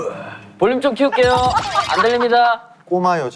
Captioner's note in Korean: 웃음 터짐